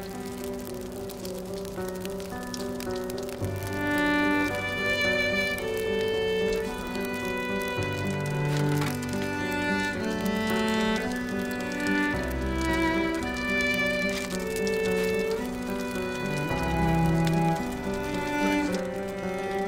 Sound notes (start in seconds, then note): 6.0 fire crackles while music continues to play